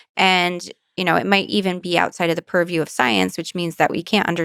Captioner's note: none